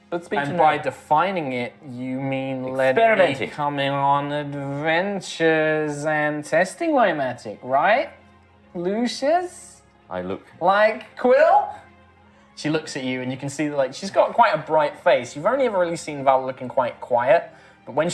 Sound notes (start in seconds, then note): none